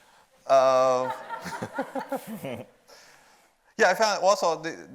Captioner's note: audience laughs